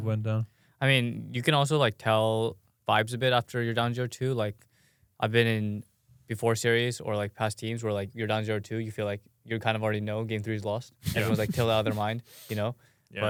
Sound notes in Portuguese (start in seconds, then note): 11.0 risos